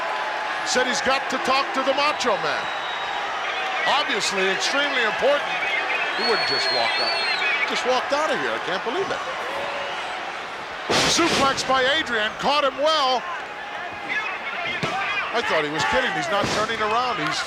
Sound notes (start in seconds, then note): 3.2 crowd boos